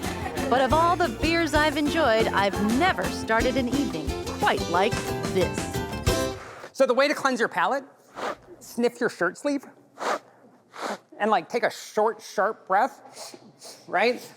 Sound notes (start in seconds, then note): 8.1 inhales; 9.9 sniffing